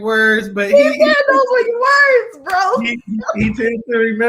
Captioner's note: laughing